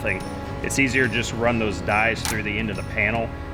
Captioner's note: hammer clanging